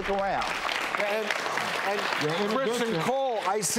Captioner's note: clapping